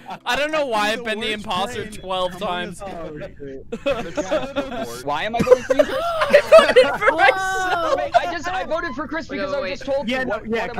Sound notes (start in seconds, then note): 3.7 laughter; 5.3 laughing